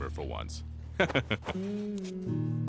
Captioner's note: laughing